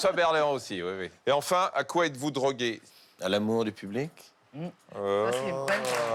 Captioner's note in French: applaudissements